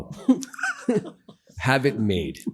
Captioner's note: laughs